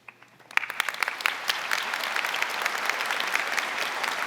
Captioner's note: audience applauding